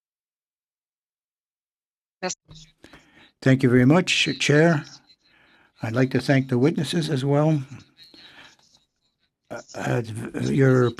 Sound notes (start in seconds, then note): 7.9 speaking in French